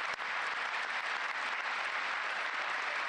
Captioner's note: applause